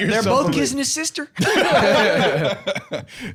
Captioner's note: all laughing